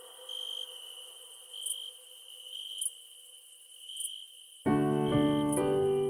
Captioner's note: insects continue chirping; gentle music